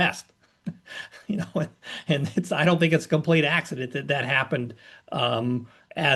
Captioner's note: laugh